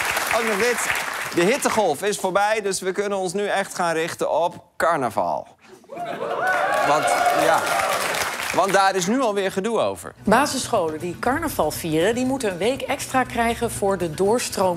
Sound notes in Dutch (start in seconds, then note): 3.5 applaus